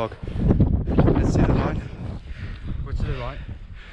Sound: wind muffles

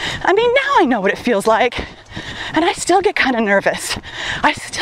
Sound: none

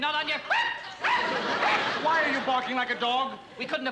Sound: yelp

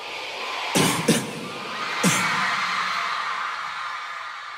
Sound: cheering; coughs

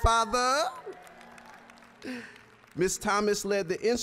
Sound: applause

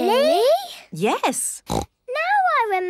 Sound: snorts

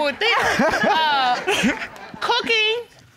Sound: all laughing

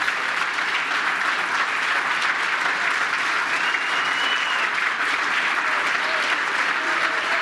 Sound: applause

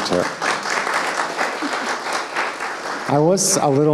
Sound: audience applauding

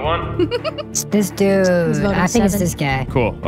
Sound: giggles

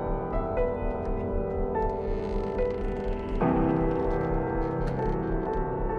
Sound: door creaks

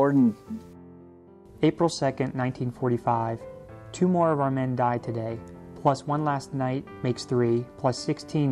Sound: voiceover

